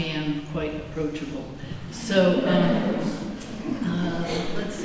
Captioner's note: laughter